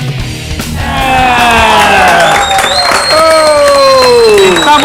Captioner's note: cheers and applause